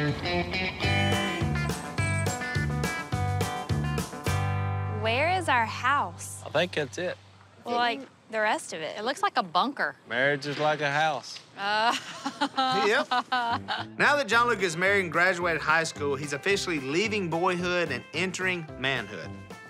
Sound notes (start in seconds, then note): 0.1 horn honks; 11.8 laughing